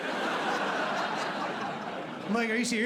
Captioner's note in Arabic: ضحك